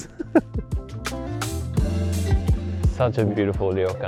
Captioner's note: chuckles